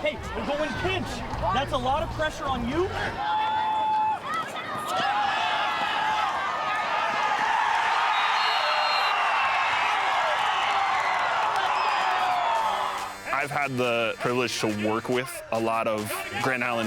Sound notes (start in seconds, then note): 3.2 cheering; 7.0 crowd cheering; 8.4 applause